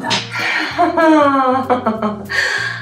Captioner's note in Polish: śmiech